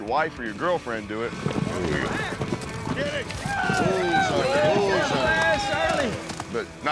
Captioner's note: cheering